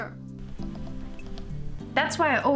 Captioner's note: tapping